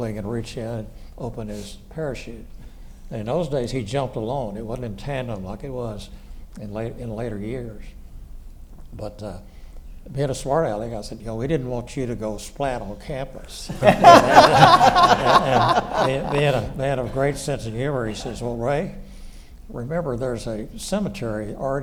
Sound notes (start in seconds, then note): 13.7 audience laughs